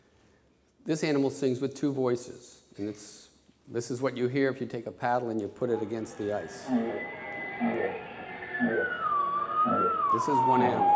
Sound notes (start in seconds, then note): 5.6 whale songs